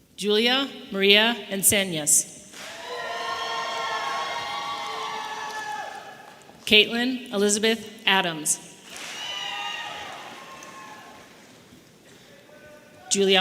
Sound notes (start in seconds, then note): 2.5 audience applauding and cheering; 8.9 audience members cheering